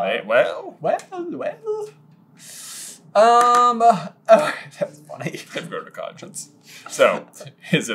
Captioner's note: laughs